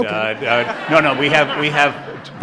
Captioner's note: audience laughs